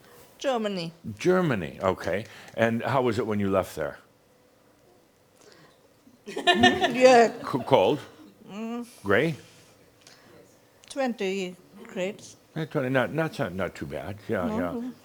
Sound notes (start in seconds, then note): 6.3 she pauses and giggles